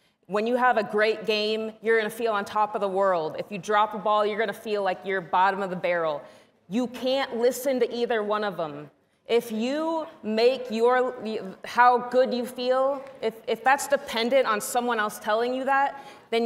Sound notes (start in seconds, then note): none